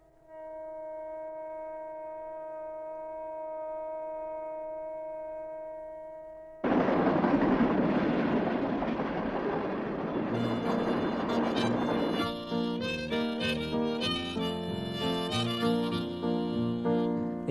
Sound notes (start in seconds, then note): 6.6 train rumbles